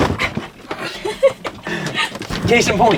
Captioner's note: both laughing